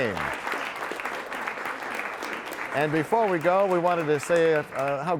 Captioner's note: applause